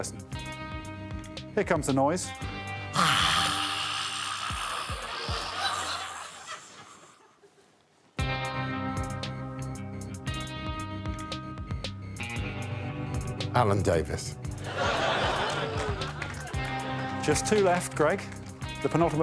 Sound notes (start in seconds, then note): 5.0 hisses; 16.7 audience laughs